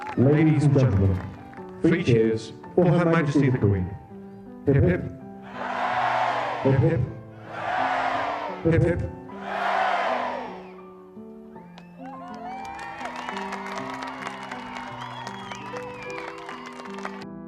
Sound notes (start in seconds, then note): 11.6 crowd cheers; 16.9 gentle music